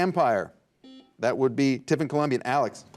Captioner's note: buzzer buzzes